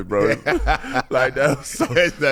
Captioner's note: laughing